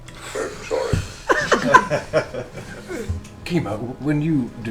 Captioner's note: all laugh